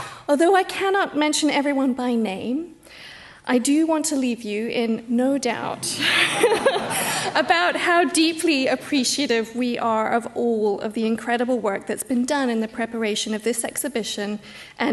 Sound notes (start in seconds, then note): 6.0 laughs